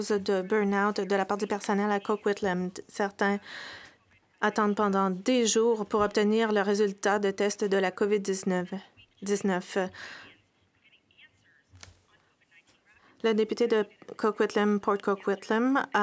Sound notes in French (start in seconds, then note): 8.7 voix de l'interprète